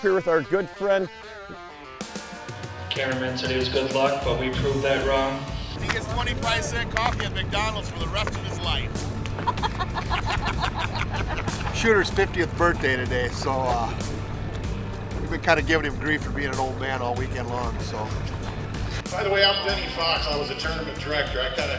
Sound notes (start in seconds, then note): 6.2 voiceover; 9.3 laughter